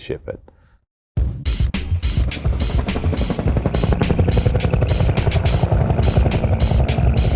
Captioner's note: exciting music; helicopter whirring